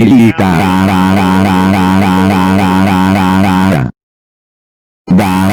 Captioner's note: laughing